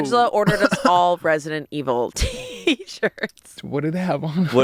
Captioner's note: laughs